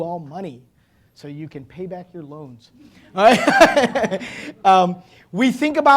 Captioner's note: laughing